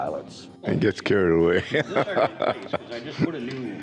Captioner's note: laughs